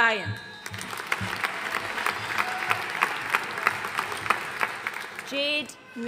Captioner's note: audience cheering and applauding